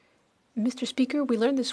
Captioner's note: speaking French